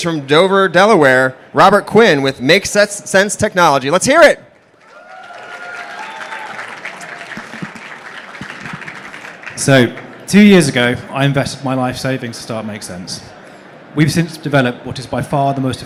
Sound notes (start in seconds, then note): 4.7 applause